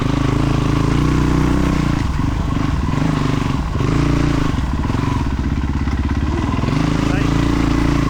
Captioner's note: engine revving